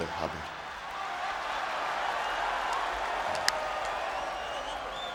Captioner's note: audience cheering